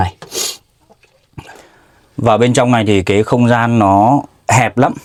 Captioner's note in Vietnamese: khịt mũi